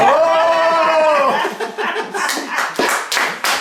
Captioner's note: cheering